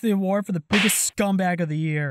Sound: slap

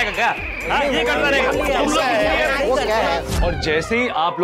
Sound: indistinct chatter

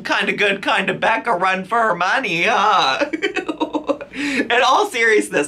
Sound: laughs

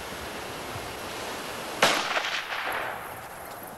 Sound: gunshot

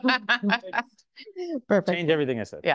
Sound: host laughs

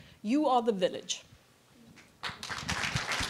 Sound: applause

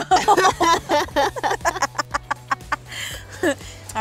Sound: laughter

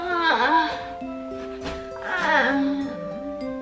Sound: Gertie yawning

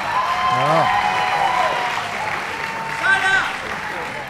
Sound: audience cheering

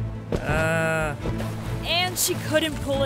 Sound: water splashes

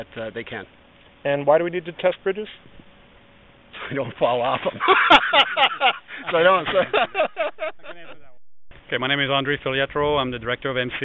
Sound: laughing

